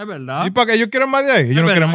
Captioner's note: speaking In Foreign Language